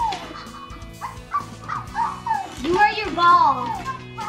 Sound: electronic barking

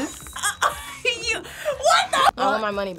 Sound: laughs

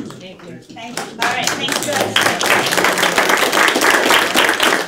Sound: applause

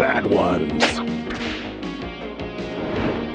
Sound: whip cracks; air whooshes

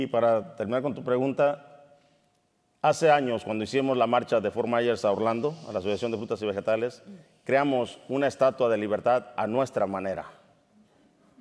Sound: speaking in Spanish

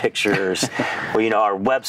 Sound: laughing

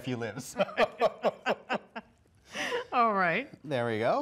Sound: both laughing

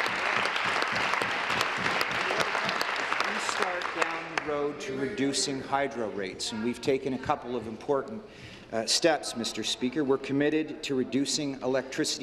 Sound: applause

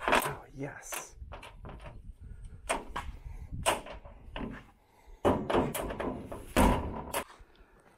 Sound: metal door opening

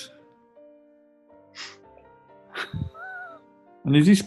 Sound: chuckling

